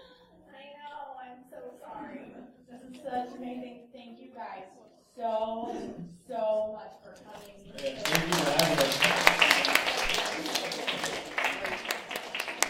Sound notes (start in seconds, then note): 7.6 applause